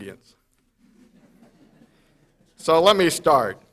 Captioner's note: audience chuckles